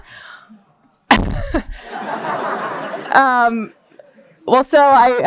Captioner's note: laughter